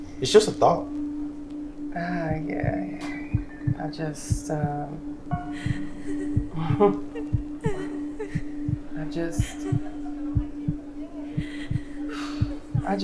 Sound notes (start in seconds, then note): 5.3 woman cries; 11.4 sighs